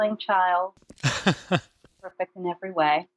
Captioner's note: laughing